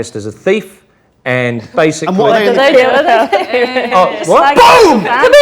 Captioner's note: overlapping chattering